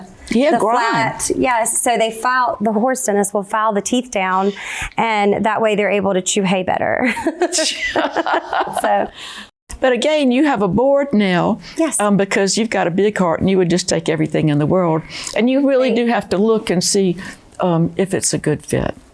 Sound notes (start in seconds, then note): 7.5 laughing